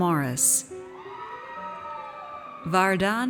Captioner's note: audience cheers